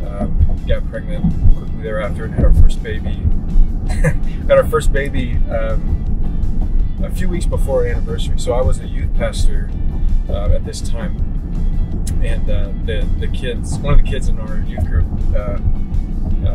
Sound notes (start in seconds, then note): 3.9 laughs